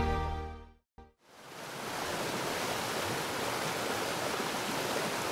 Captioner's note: water splashing